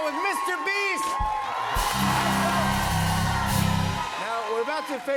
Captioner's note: cheers and applause